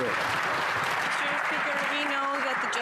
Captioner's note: some Applause